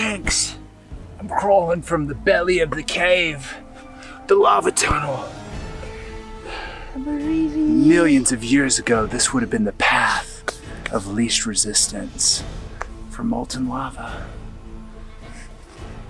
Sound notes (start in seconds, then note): 6.8 speaks faintly